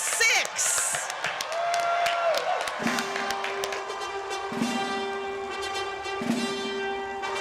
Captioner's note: cheering